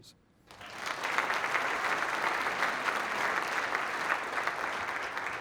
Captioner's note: applause